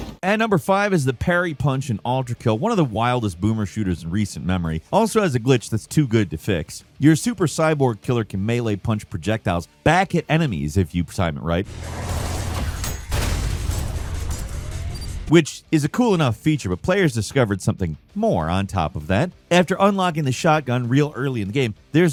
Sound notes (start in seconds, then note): 11.6 explosion blasts; 11.6 intense music